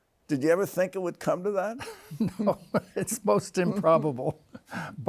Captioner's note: chuckles